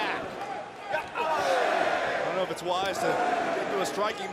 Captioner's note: crowd cheering